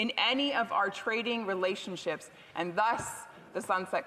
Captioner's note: none